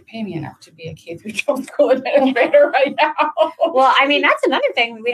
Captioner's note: laughs